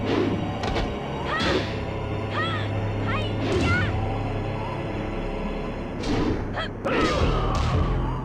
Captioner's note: Tekken Game Audio